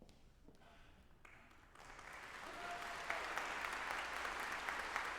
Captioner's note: audience applauding